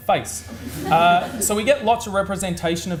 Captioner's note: audience laughs